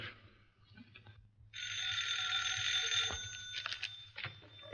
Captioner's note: phone rings